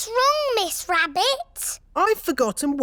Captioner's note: none